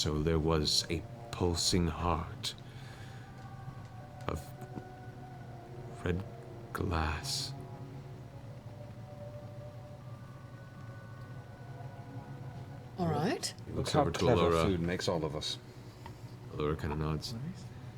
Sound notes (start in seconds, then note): none